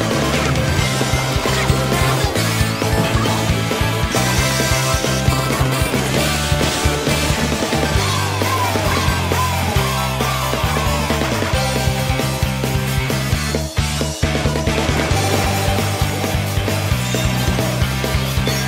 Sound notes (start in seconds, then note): 0.0 happy Harmony sounds; 8.0 Harmony cheering while her clownfish is dying inside